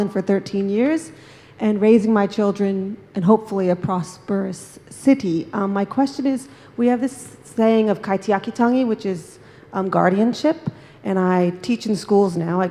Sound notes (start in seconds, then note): 8.1 speaks in foreign language